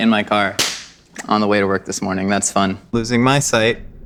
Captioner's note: claps